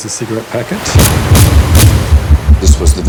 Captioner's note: banging